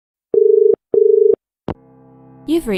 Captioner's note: dial tone